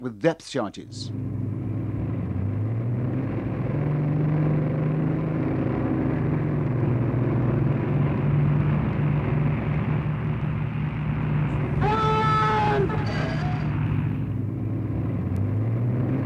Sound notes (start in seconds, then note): 2.5 engine roar; 12.1 yells in foreign language